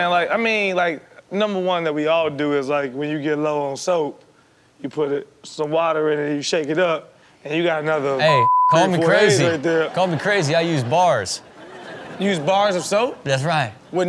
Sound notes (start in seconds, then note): 8.3 beep